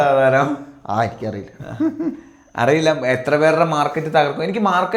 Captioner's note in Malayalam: പൊട്ടിച്ചിരി